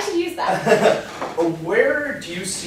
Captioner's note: laughs